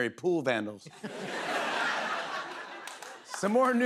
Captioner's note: laughter